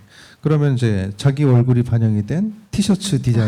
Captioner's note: speaking korean